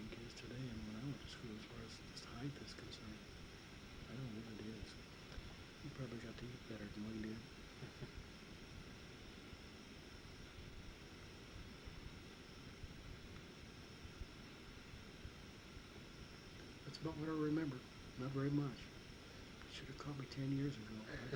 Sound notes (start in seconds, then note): 7.8 chuckles